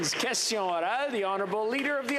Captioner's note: applause